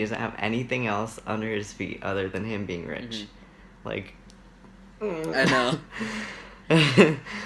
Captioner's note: laughs